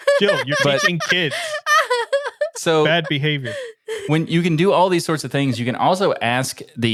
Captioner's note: laughing